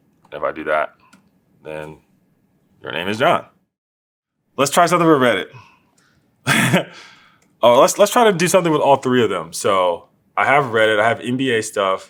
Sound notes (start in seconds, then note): 6.4 laugh